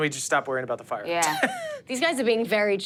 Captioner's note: chuckles